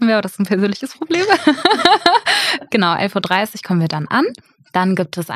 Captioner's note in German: lacht